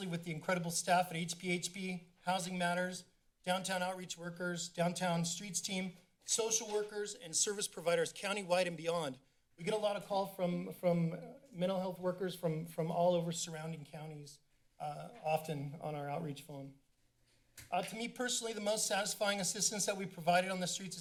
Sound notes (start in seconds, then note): none